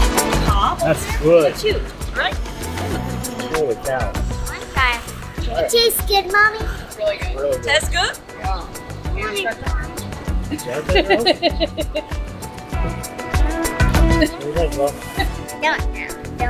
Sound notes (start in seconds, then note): 13.5 laughs